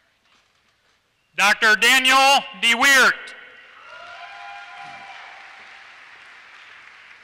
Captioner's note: applause